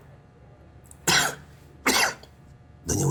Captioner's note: coughs